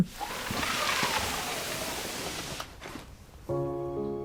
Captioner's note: sliding basket